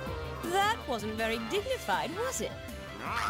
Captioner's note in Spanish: mordiendo